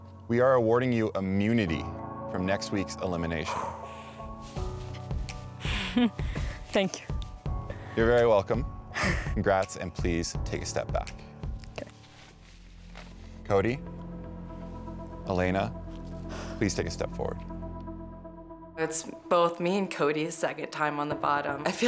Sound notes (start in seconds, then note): 3.5 exhales; 5.6 chuckles; 17.5 suspenseful music